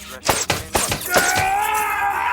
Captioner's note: scream